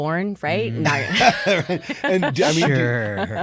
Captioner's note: all laughing